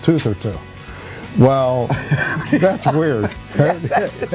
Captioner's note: both laugh